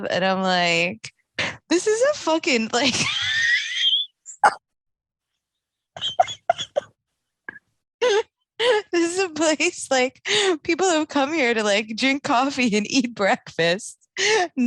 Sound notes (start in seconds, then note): 2.9 laughing